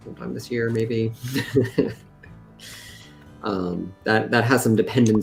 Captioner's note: laughter